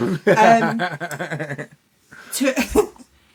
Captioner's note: laughing